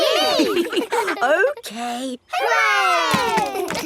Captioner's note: chuckles